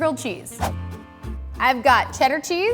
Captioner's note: upbeat music; whooshing